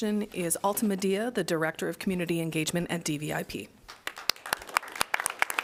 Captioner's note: applause